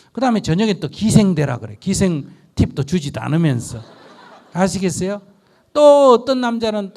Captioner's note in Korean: 청중 웃음